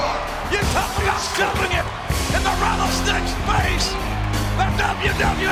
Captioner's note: presenter speaking faintly off mic